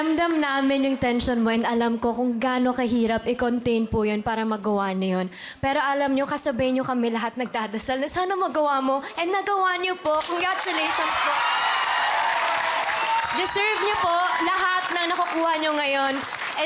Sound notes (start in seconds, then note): 11.9 applause, cheering